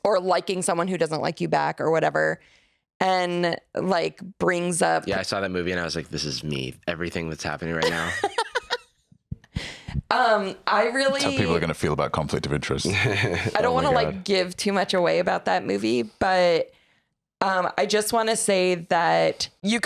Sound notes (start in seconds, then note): 7.8 laughs